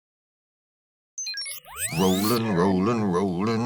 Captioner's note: electronic beeps